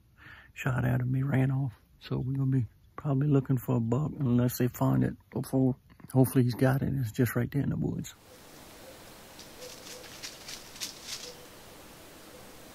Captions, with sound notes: shot at him he ran off so we probably going to be looking for a buck unless they find it before hopefully he got it and it's just right there in the woods (leaves crunching)